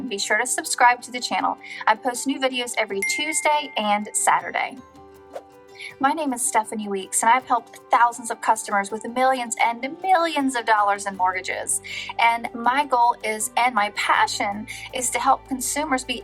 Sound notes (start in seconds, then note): 3.0 bell chiming; 5.3 air whooshing